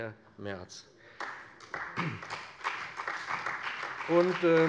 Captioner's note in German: Beifall bei dem BÜNDNIS 90/DIE GRÜNEN und der CDU